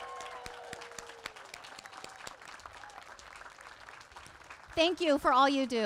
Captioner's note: applause